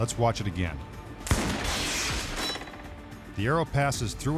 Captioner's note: gunshot